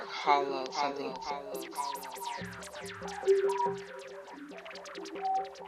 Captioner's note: echoes